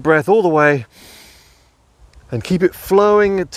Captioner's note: breathing heavily